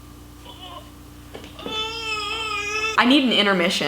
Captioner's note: gagging